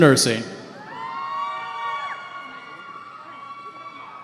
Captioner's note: cheering